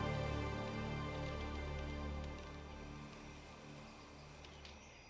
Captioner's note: fire crackling